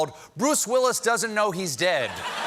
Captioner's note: laughter